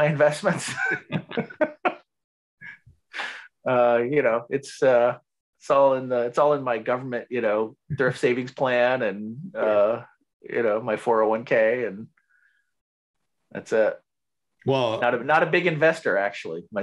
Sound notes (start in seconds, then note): 0.6 both laugh